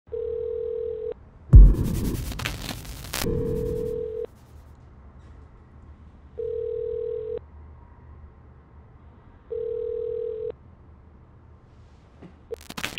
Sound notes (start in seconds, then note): 0.1 dialing; 1.5 distorted static